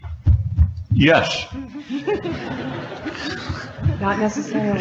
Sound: audience laughing

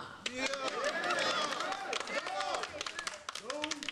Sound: audience applause

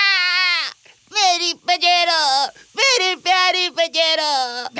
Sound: sobs

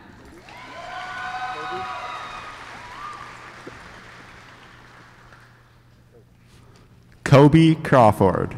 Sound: applause

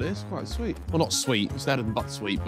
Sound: none

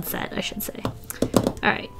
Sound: fingers tapping

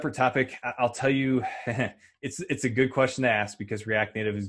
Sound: laughs

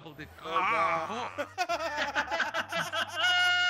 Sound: laugh

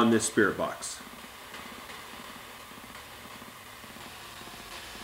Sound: static crackling

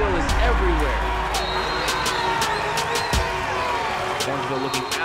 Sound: crowd cheering; whistle blows

